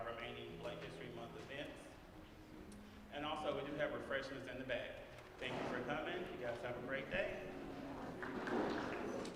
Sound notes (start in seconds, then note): 8.2 applause